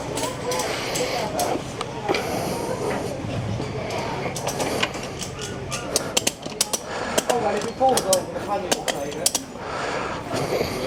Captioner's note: he breathes heavily